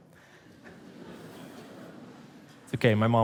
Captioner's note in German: Publikum lacht